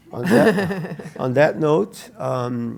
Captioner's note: laugh